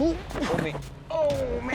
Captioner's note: exclaims